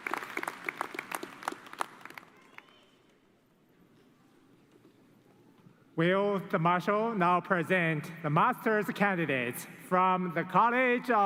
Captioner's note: cheers and applause